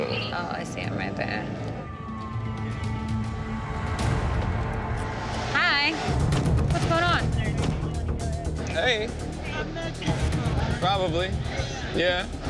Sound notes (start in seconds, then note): 1.3 siren